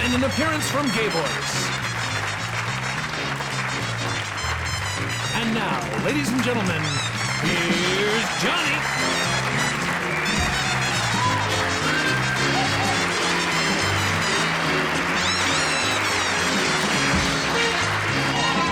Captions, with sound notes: And an appearance from Gay Voic. And now, ladies and gentlemen, here's Johnny. (applause) (band playing)